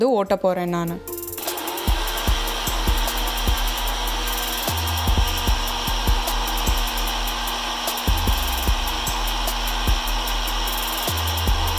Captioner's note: grinder sound